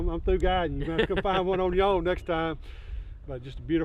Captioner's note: laughing